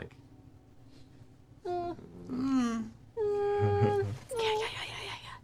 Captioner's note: whines worriedly